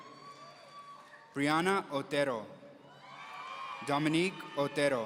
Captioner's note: audience cheering; audience cheering